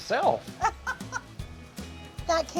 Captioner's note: laughing